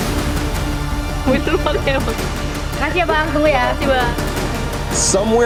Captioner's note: in Indonesian; man, in English